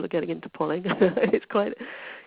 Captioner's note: laughs